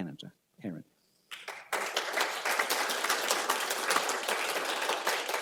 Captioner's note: applause